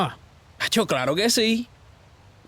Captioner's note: in Spanish